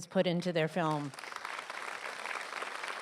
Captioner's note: applause